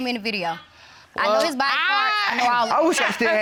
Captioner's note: chuckles